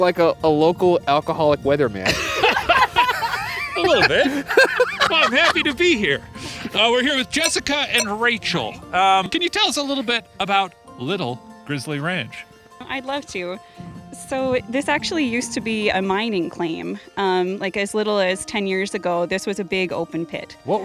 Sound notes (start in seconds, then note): 2.2 laughing